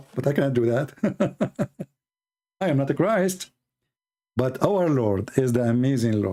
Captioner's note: Ketawa